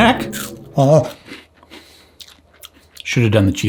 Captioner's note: chewing